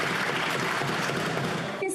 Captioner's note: some Applause